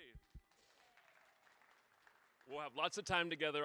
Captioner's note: audience cheering